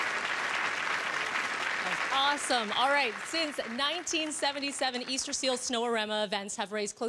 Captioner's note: applause